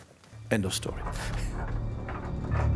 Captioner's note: laughs